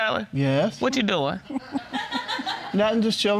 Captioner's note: audience laughing